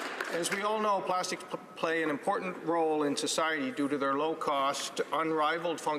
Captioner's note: some applause